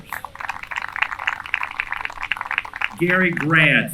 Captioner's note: applause